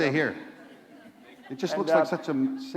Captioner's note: laughter